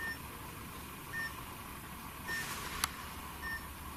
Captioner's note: beeping